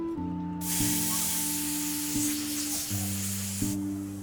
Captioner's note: air hissing